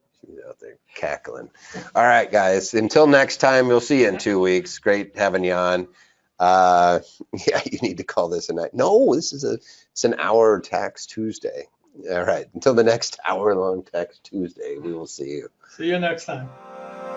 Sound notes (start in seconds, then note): 7.2 laughs